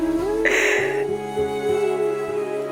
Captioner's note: sobbing